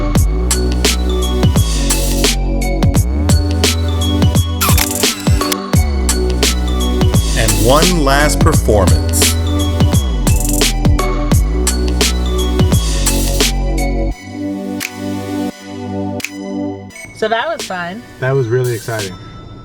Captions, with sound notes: (bright gentle music) (camera shutter clicks) And one last performance. (bright music continues) - So that was fun. - That was really exciting.